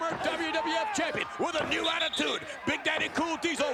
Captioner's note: referee whistling